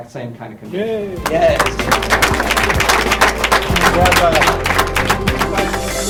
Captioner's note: applause